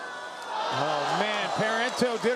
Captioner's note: crowd